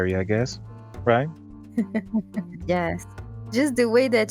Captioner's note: giggles